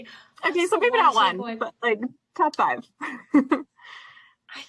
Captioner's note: laughs